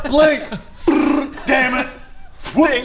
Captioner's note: fwrrrrrrrr